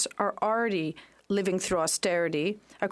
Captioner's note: speaking French